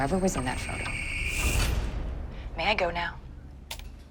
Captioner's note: key clacks